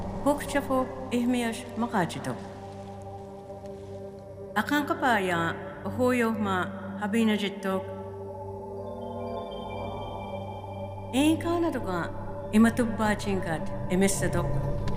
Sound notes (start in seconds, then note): 0.8 speaking Choctaw; 5.3 speaking Choctaw; 12.0 speaking Choctaw